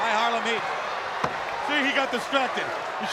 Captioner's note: crowd cheering